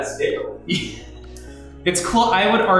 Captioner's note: laughs